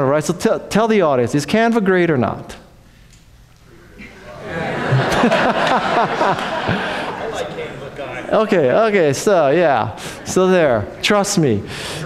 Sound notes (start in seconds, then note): 4.0 audience laughs